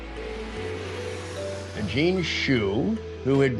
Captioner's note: plane engine roaring